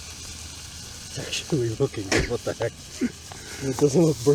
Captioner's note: laughs